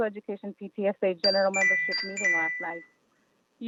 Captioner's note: chime